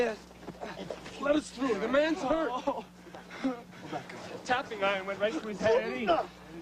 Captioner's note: Phineas groans